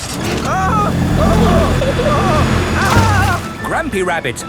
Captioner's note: grandpa screaming